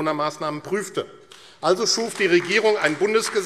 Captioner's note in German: Beifall AfD